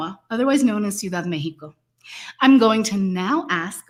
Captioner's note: speaks Mexican